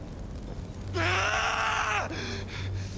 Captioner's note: scream